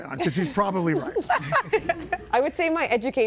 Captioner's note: everybody laughing